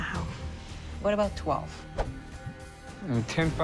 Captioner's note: swoosh